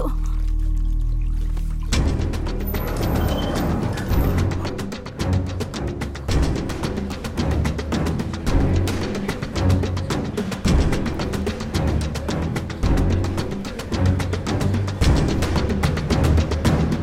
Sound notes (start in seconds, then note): 0.0 water sound; 2.7 door opens